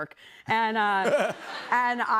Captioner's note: laughter